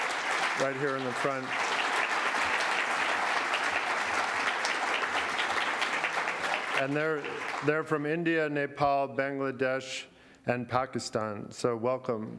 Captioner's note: applause continues